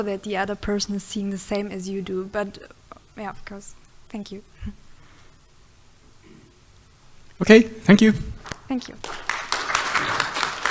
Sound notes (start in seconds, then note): 9.0 audience applauding